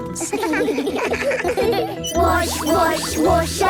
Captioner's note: children giggling